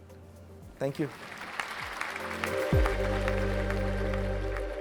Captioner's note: applause